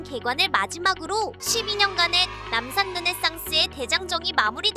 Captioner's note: cheering sound